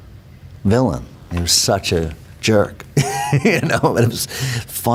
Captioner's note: laughs